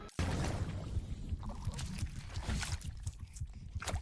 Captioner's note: water sloshes